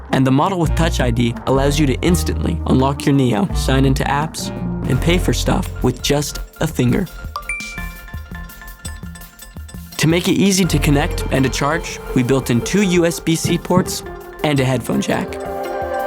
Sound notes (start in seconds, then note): 7.2 apple pay chime